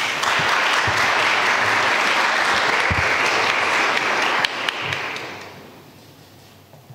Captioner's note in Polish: oklaski